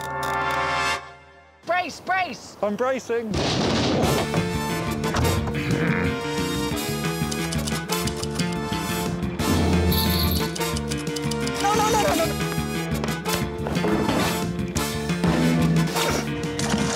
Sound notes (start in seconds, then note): 3.5 boat thumps; 4.1 theme music playing; 7.0 typewriter clacking; 9.5 drumming and jingling